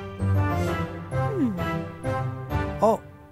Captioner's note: The Squire sighs; Princess Oren sighs; sighs